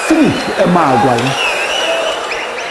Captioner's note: wild applause and cheering for 22 seconds